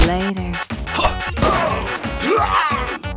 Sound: grunting

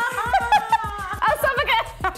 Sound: hysterical Laughter

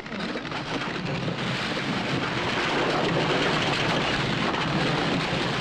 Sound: building rubble crashing

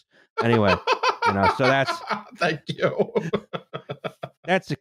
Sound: laughs

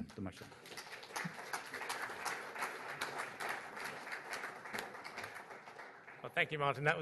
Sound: applause

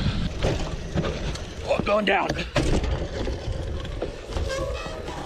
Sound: sound of bike hitting the ground

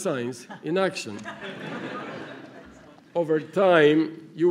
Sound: laughter

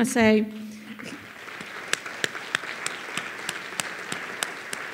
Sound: all applauding

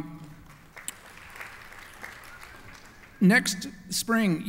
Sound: applause

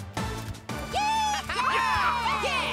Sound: all cheering

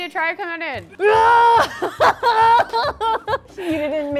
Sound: growling

